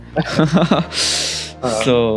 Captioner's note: laughs Ironically